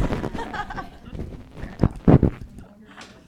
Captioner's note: all laugh